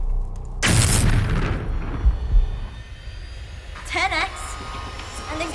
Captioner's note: electricity buzzing; ship accelerating